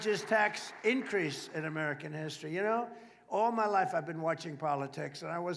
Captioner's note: applause